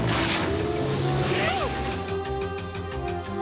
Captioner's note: exclaims